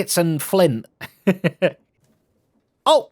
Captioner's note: laughs